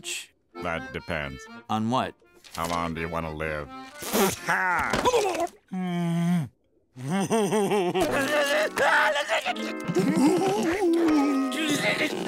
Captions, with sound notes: - That depends. - On what? How long do you want to live? Ha. [laughing] [shrieking]